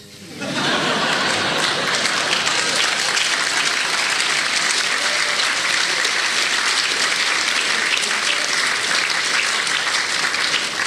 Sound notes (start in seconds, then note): 5.6 laughter